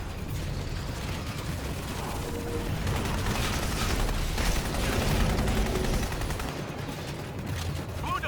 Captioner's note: gunfire